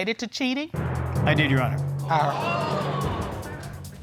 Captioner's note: audience exclaiming